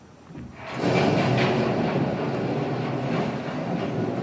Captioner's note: thunder